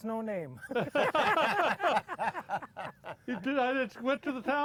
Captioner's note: all laughing